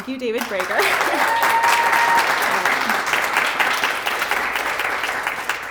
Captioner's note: applause